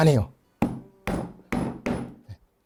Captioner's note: hammering sound